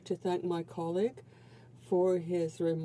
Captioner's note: speaking French